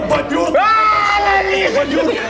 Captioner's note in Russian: крик